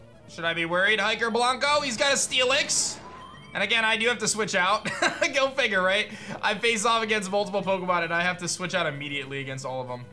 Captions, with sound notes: Should I be worried? Hiker Blanco. He's got a Steelix. And again, I do have to switch out. (laughs) Go figure, right? I faced off against multiple Pokemon and I have to switch out immediately against all of them.